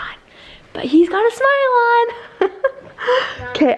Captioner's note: giggles